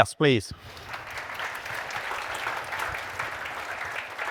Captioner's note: audience applauding